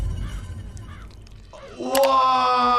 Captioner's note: bird chirping